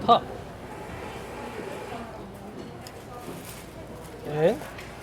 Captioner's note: ambient restaurant noise